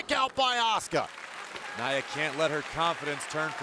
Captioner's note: crowd claps